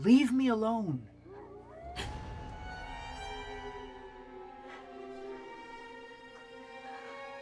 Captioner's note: wolves howling; Jennifer gasps